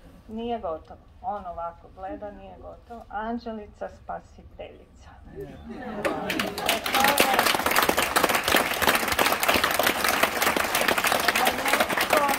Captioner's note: applause…